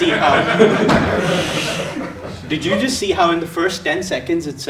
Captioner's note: laugh